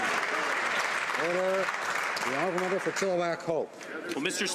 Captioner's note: some Applause